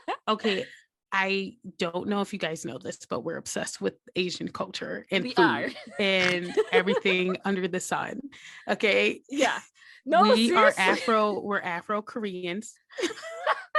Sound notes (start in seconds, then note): 0.0 giggles; 5.9 snorting laughter; 12.9 laughter